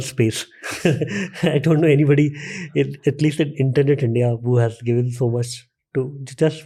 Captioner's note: chuckle's